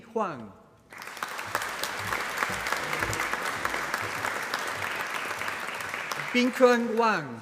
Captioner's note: applause